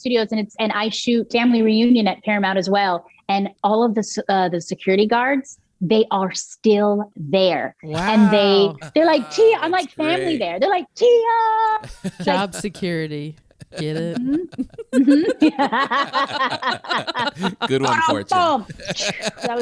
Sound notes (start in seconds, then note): 14.7 laughs